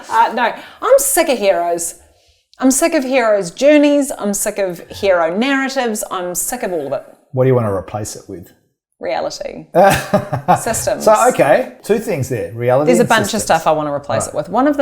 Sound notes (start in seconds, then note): 9.8 laughing